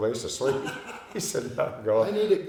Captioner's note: laughing